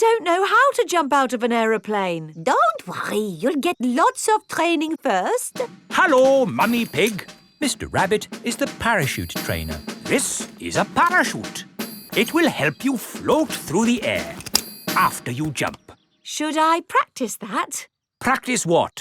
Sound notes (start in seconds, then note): 14.3 clicking